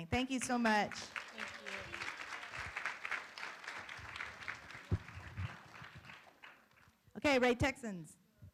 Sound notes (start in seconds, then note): 0.7 room applauds